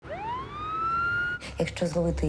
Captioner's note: ambulance siren